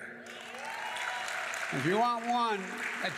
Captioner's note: applause